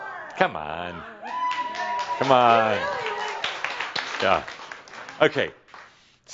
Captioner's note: someone shouts “Woo!” and applauds